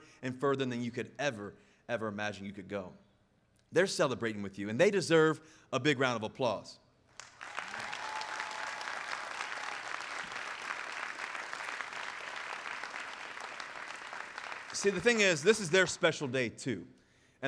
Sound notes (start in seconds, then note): 7.2 audience applauding